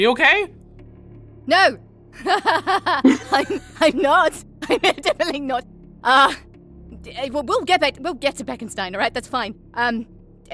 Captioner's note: laughs